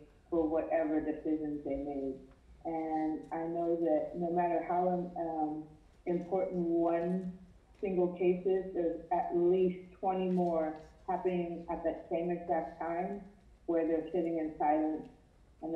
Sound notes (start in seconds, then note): none